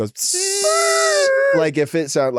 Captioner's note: Delta screeches